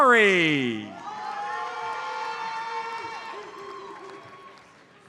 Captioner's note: audience cheers